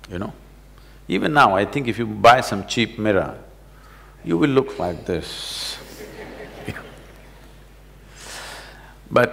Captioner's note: laughter